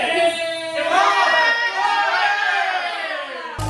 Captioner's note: everyone Cheering!